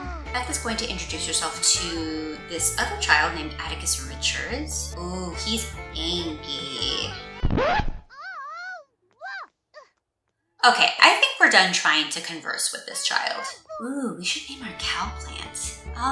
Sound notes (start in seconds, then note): 7.4 record scratch; 8.1 child yelling